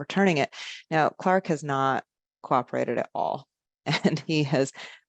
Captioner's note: chuckles